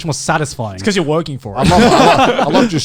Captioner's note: laughs